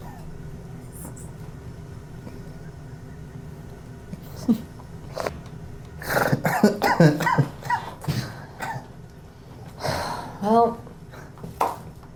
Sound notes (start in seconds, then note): 0.1 Miles chuckles; 4.2 Tina chuckles; 6.0 Miles chuckles and coughs